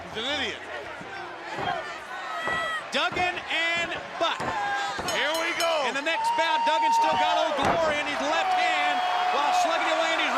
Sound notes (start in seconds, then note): 5.0 bell ringing